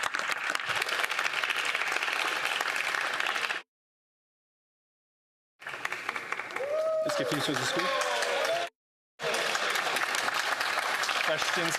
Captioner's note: some Applause